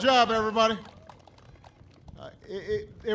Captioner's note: applause